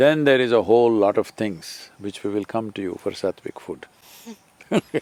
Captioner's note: laughs